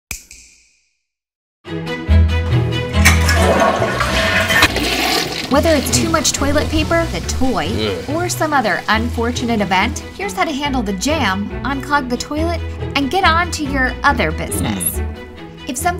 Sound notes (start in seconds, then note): 2.8 flushing